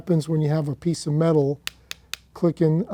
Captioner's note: click, click, click